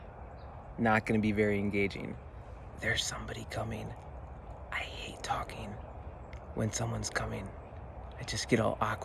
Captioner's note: whispering